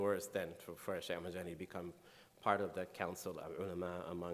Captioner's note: speaking in foreign language